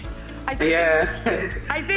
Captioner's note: laughs